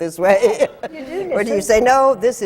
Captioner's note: laughs